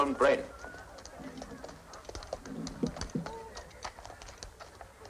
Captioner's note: hooves clopping